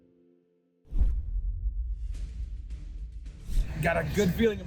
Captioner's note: logo whooshes; suspenseful music